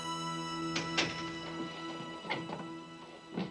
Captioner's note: door opening